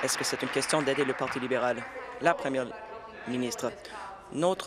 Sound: applause

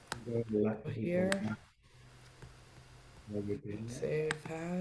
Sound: murmuring

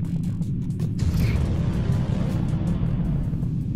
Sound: thud

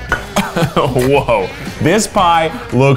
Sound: chuckles

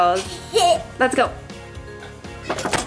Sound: laughs

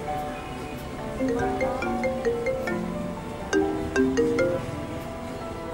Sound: phone ringing

